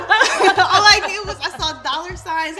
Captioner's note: women laugh